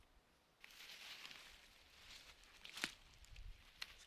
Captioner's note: grass rustling